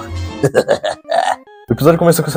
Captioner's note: evil laugh